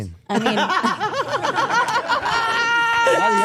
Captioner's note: everyone laughing